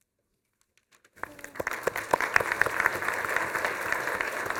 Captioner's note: applause